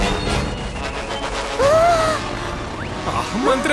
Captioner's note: static crackling; Pomni whimpers